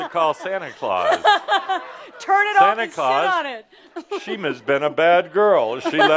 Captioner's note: laughter; laughing